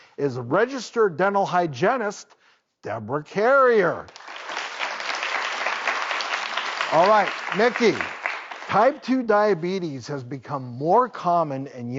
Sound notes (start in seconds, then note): 4.0 audience clapping